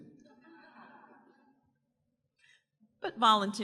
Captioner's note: audience members laugh